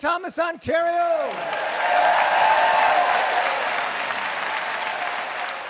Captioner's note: applause